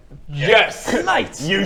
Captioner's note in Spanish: se burla